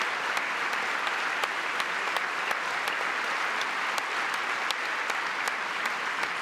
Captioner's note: applause